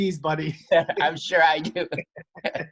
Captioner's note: chuckles